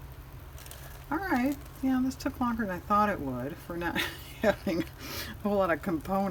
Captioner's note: laughs